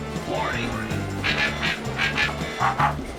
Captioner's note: robotic barking